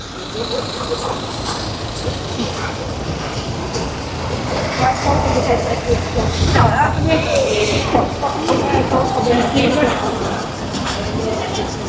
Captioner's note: street noise